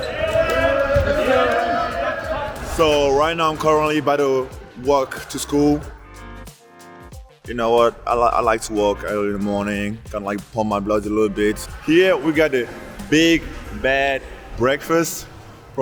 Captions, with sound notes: (players shouting) So right now I'm currently by the walk to school. You know what, I like to walk early in the morning, kinda like pump my blood a little bit. Here, we got the Big Bad Breakfast.